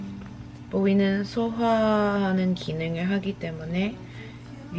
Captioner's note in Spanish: hablando coreano